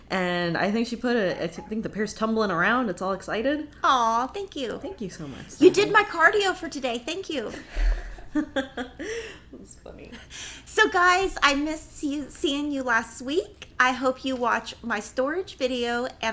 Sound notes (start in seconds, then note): 7.6 laughing